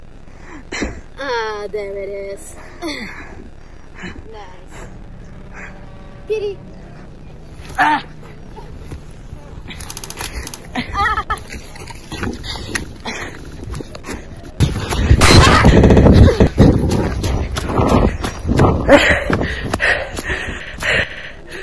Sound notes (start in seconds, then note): 15.1 gun shot, Amon screaming; 16.4 loud wind; 17.7 Leon breathing heavily while running